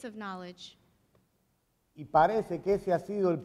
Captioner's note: speaking in Spanish